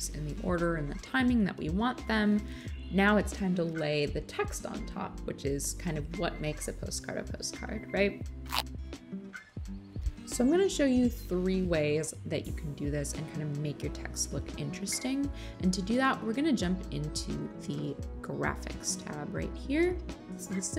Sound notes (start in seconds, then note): 8.4 tape rips